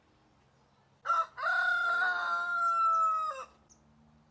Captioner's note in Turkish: horoz sesi̇